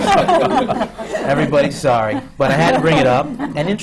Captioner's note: laughter